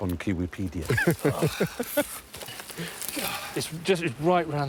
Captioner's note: chuckles